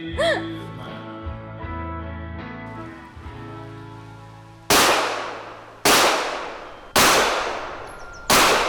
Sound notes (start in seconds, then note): 4.7 gunshots blasting